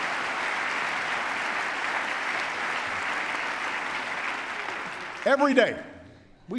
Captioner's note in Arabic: تصفيق